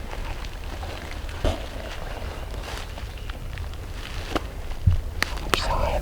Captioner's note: walking